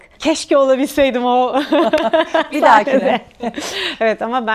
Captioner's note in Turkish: kahkaha